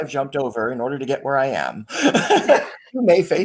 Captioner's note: laughs